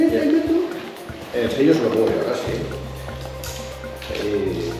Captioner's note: Spanish